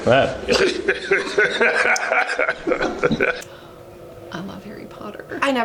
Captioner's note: laughing